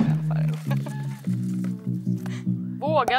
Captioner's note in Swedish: Skratt